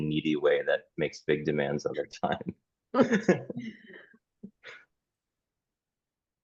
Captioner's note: chuckled